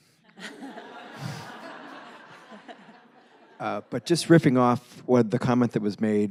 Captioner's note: laughs